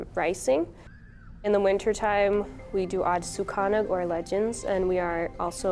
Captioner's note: speaks Ojibwe